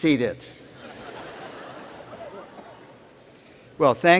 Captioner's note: laughter